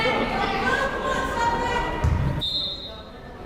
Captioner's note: players murmuring; whistle blows